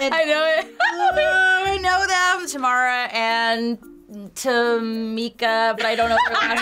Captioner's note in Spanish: Risas; gemidos; risas